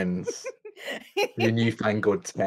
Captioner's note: laughs